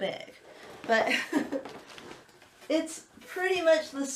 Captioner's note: laughs